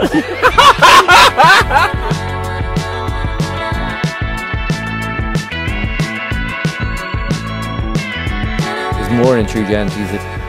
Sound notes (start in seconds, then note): 0.0 laughing; 4.6 upbeat music